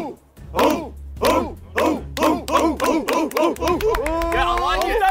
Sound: chanting speeds up

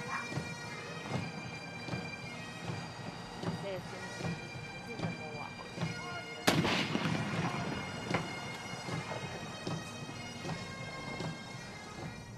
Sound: artillery Salute

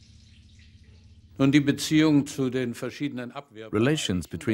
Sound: speaking German

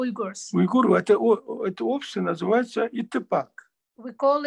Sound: in Russian

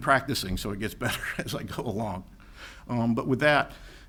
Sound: laughs

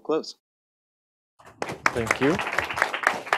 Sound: applause

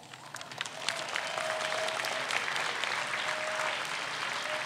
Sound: audience applauds

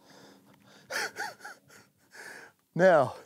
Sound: laughing

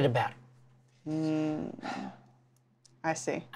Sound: sighs

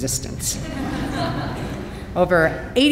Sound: audience laughing

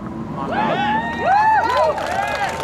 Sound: crowd cheering

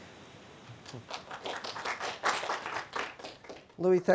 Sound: applause

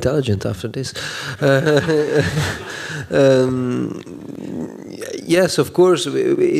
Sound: laughter

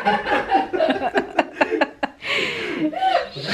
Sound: laughing

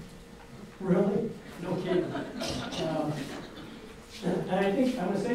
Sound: audience laughs

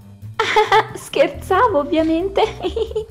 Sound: laughs

